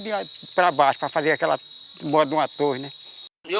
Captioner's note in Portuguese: Sons de insetos no mato